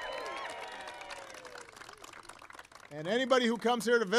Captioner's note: applause